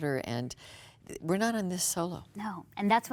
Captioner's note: none